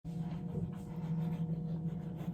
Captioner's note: gross teeth brushing noises